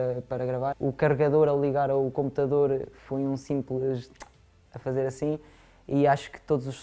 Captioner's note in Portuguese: som da boca